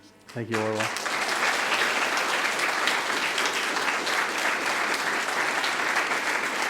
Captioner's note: audience applauding